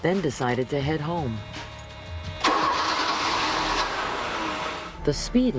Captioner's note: car starting